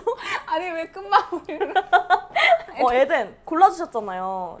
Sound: still laughing

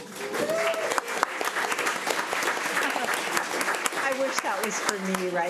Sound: crowd cheering and clapping

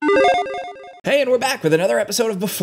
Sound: electronic chime

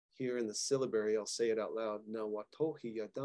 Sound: speaking in Cherokee

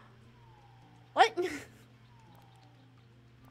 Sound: laughs

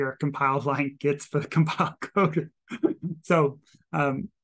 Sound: chuckles

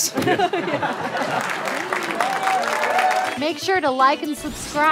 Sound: laughter

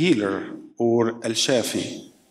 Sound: speaking in foreign language

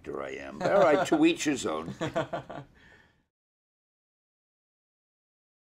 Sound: interviewer laughs

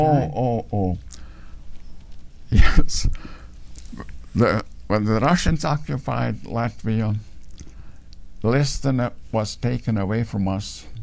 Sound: chuckles

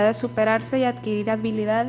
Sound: speaking foreign language

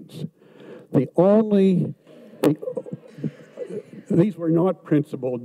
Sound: audience mumbles

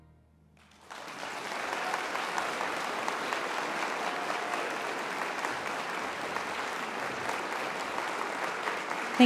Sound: applause

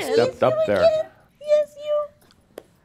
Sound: high pitched voice

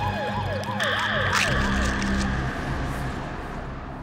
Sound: squishing

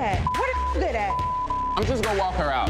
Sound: beeping

